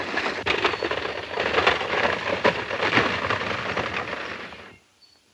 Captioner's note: horse hooves clomping